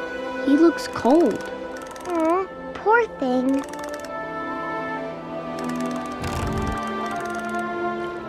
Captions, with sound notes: He looks cold. Aw, poor thing. [shivering]